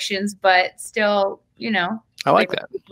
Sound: speaks faintly

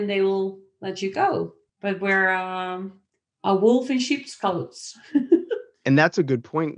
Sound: laughs

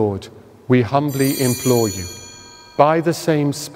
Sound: bells ring

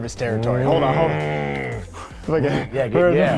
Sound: grunting

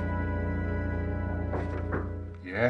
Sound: knock-knock-knock

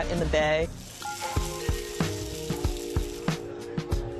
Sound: sizzling

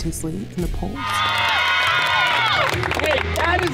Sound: cheering

